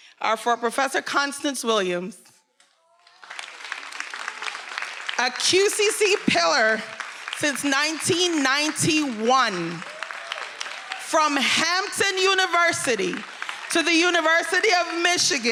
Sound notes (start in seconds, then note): 3.2 attendees applauding; 9.4 attendees cheering